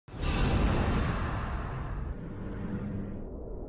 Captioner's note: woosh